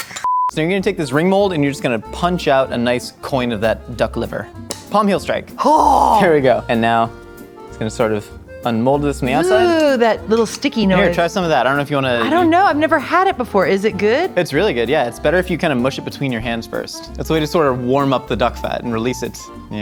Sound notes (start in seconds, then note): 0.2 beep; 4.6 thunk